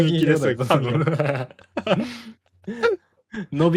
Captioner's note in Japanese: 笑い